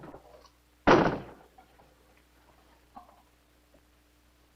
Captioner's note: door closing